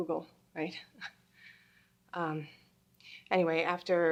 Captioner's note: Angela chuckles